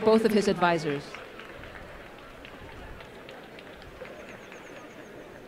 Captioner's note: applause